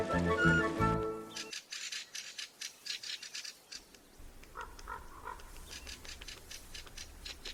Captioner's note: skrzekliwe głosy kwiczołów, krakanie kruka, głos wrony